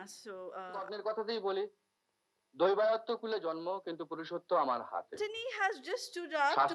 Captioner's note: speaking in foreign language